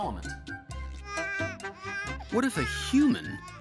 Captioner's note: baby crying